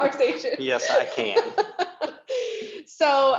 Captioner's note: laughs